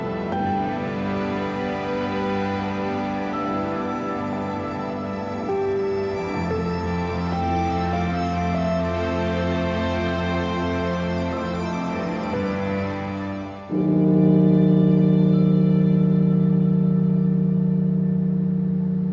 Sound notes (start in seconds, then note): 13.9 bell tolling; 16.4 somber music